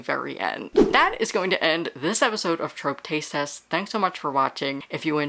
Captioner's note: whoosh